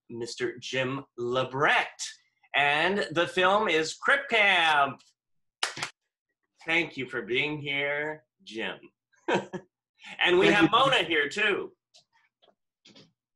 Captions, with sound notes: Mr. Jim LaBrecht, and the film is Crip Camp. (clapping) Thank you for being here, Jim. - Thank you. - And we have Mona here too.